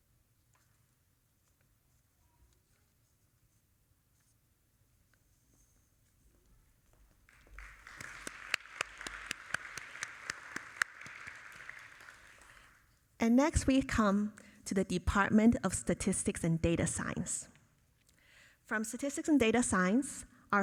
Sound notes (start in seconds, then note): 7.2 audience applauding